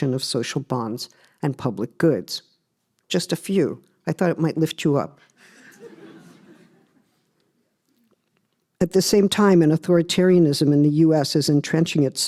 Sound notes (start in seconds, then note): 5.5 laughter